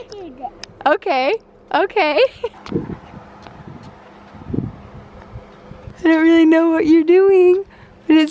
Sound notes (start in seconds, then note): 2.2 laughing